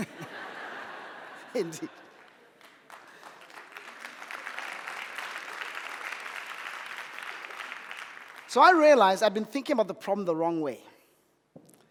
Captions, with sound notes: (audience laughing) Indeed. (audience applauding) So I realized I've been thinking about the problem the wrong way.